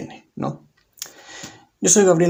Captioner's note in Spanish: Silencio